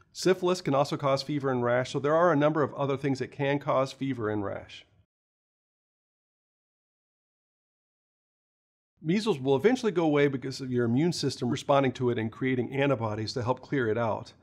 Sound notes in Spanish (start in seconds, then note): 4.8 Sin audio